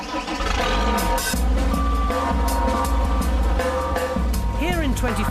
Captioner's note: engine revving; dramatic music